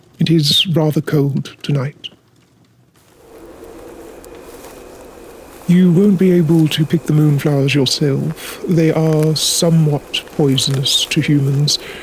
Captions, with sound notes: It is rather cold tonight. [Sound of cold wind and footsteps on grass] You won't be able to pick the moonflowers yourself. They are somewhat poisonous to humans.